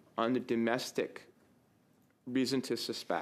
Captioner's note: speaking French